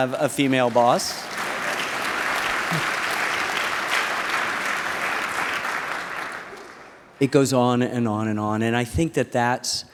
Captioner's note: applause